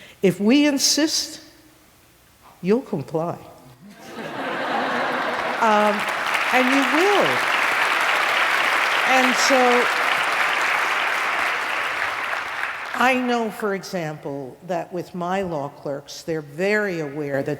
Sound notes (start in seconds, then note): 4.4 applause